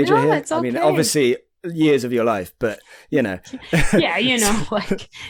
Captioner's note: laughing